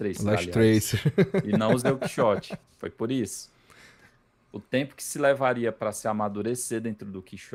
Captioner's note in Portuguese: risadas